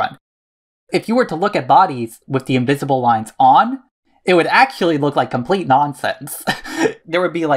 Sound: laughs

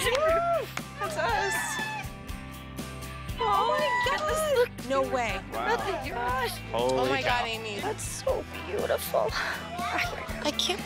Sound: cheering

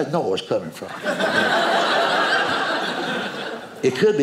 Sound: audience laughing

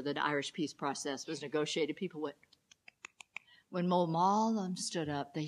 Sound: clapping

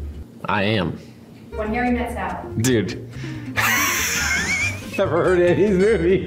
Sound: laughs

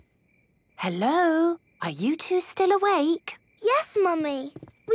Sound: whisper

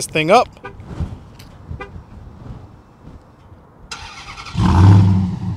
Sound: vehicle honking; vehicle engine roaring

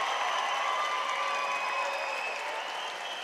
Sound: audience applauding and cheering

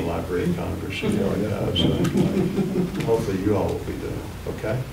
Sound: laughter

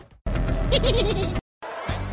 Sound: laughs

